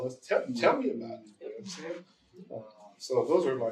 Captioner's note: audience agreement